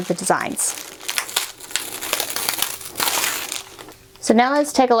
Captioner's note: crinkling